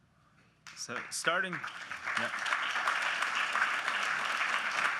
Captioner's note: audience clapping